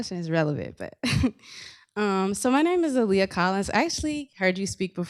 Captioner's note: laughs